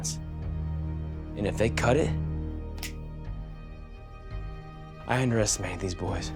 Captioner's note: snap